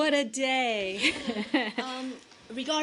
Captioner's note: laughter